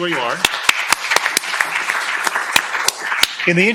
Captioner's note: applause